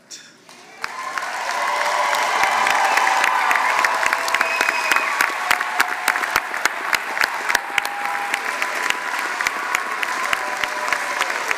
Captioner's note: applause